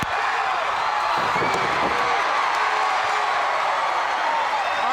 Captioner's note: crowd cheering